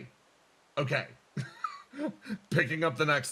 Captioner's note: laugh